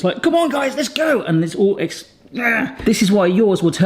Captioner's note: grunts frustratedly